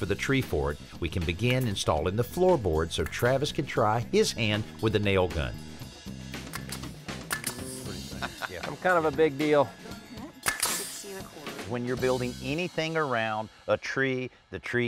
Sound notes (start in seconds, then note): 5.5 nail gun clicking; 7.6 laughs